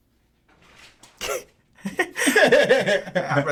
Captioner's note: laughing